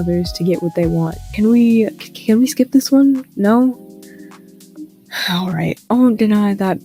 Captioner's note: sigh